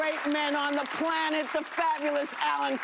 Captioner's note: applause